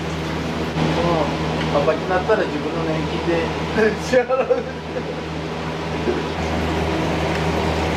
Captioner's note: laughs